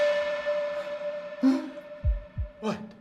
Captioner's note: light humming; Dell gasps